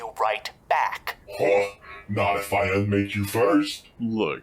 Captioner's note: scoffs